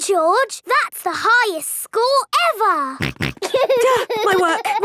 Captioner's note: snorts; giggling